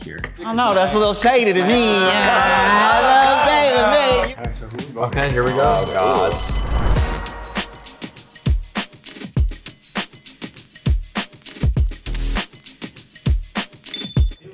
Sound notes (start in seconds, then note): 5.2 bell ringing; 5.5 group murmuring; 7.0 lively hip hop music